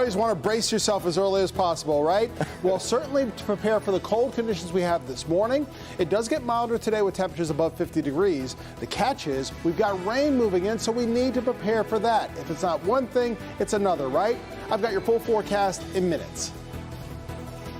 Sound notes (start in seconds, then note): 2.3 laughter